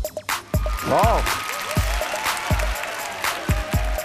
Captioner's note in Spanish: aplauso